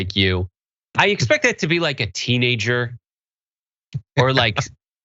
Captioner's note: laugh